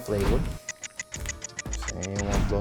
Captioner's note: clock ticks